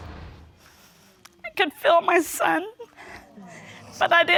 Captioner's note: tearfully